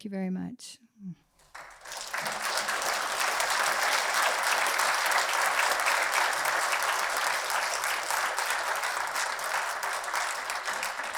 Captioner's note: applause